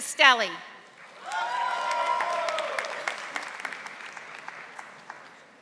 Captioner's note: audience applauding